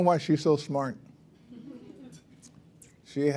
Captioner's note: laughter